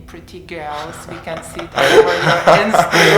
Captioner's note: laughter